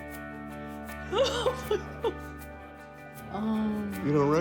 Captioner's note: joyous laughter